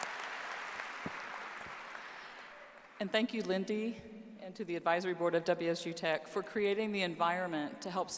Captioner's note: applause